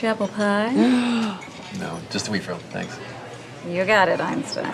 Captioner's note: Jordan gasps